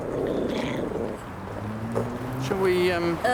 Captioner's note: dog growling